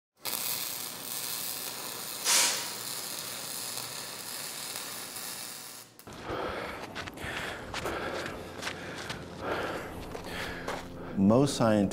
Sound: static sound

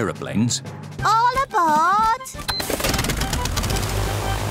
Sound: engines whirring

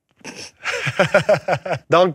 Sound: laughs

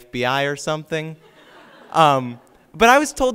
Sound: audience laughs

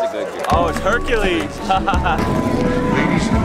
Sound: laughs

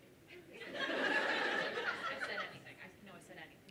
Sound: laughter

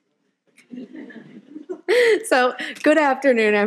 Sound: audience laughing

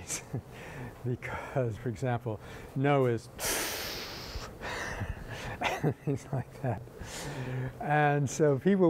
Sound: inhales

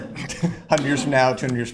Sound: laughter

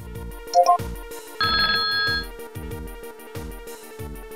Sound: ringing

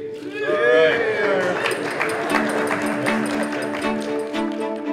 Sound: cheers and applause

